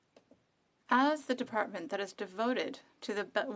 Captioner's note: speaking FRENCH